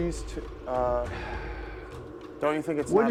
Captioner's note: sighs